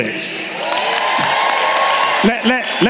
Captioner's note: applause